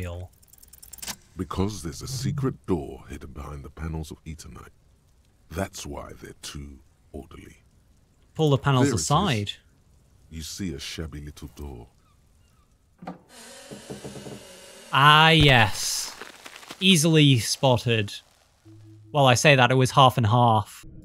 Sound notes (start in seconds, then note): 0.2 roll SFX; 13.0 door creaking loudly; 14.8 door crashing to floor